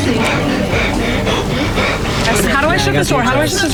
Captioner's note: heavy breathing